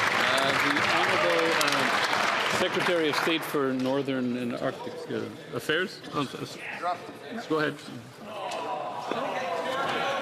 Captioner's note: some Applause